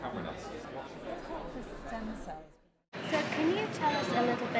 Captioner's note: faint crowd chatter